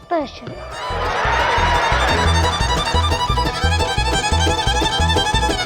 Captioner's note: audience cheers and applauds